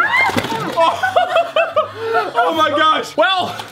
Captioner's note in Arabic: الجميع يضحك